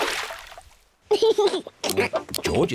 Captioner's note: laughs